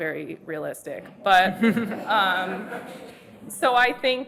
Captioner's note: audience laughs